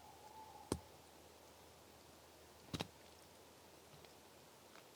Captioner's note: twigs snapping outside